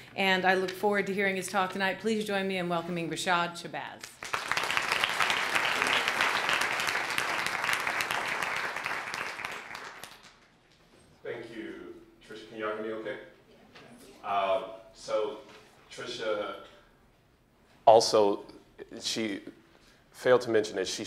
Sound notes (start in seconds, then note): 4.0 applause